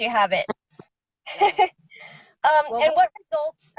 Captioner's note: laughs